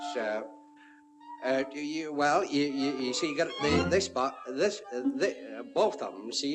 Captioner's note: stammering